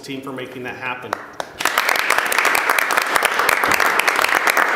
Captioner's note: applause